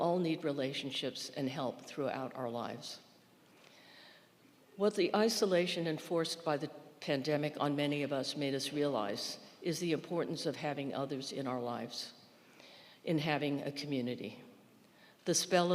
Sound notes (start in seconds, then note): none